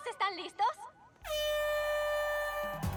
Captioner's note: horn blast